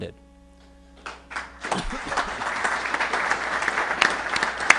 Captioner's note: applause